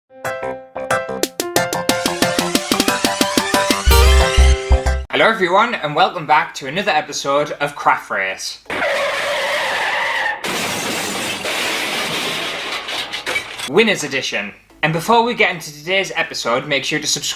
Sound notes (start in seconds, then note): 0.8 intro Music; 8.6 car Crash Sounds